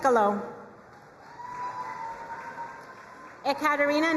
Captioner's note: crowd cheering and applauding